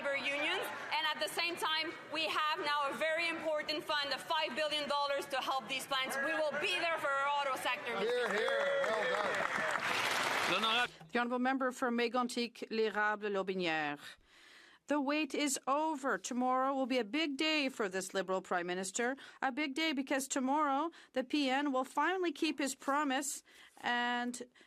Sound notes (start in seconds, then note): 15.1 speaking French